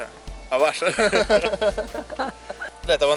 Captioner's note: laugh